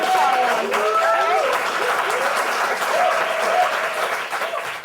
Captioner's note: audience screaming and applauding